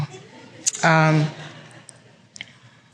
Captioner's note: laughter